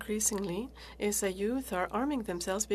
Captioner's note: speaking French